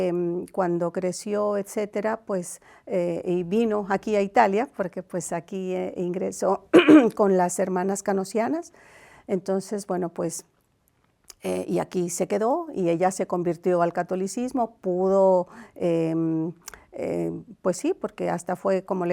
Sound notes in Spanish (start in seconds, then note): 6.7 carraspeo